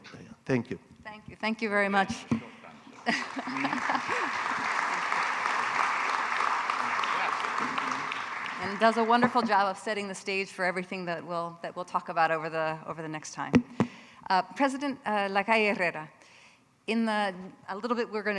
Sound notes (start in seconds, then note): 2.9 audience applauding; 3.0 person laughing